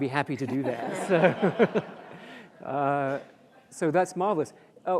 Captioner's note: audience laughs